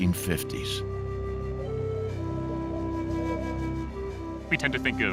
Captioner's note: wind blowing